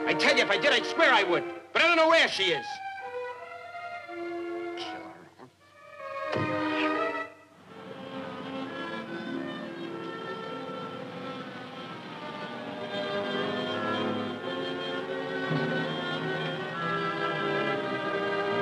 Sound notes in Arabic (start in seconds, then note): 6.3 دقات; 9.0 موسيقى أوركسترالية مشوقة